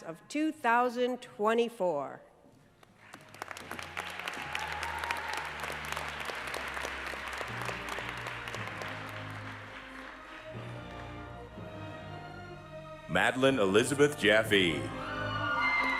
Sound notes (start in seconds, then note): 2.8 applause